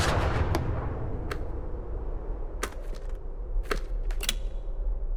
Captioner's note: wind whooshing